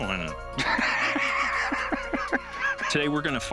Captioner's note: Rick laughing